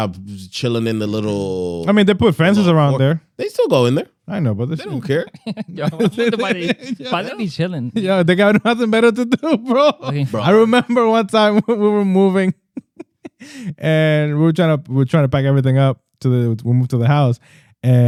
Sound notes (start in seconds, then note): 4.8 laughter